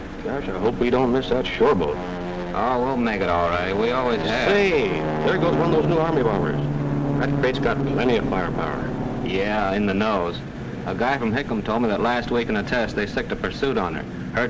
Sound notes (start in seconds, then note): 0.2 voiceover; 9.4 voiceover